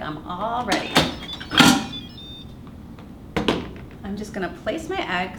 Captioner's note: cooker beeps musically